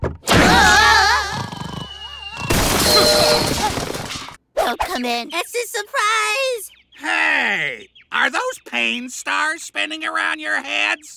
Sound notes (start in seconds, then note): 1.1 snoring; 2.4 exclaims; 2.4 crashing